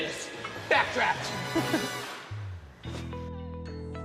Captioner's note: laughing